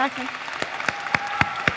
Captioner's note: cheering